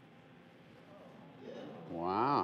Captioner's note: audience groans